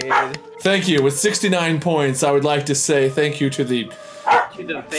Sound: bark

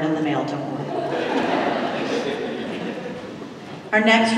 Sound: laughter

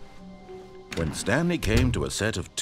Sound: door closes

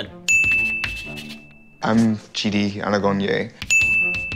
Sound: ding!; ding!

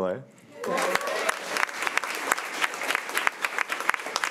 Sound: crowd clapping

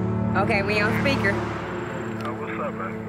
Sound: speaks on phone

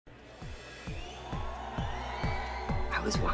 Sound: crowd cheering

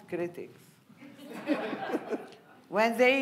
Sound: audience laughing

